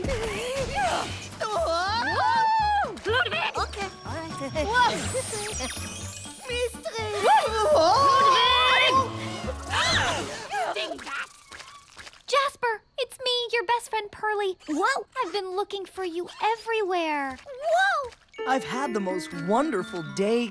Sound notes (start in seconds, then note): 1.6 both yelling